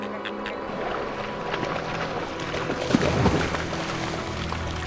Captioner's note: water splashing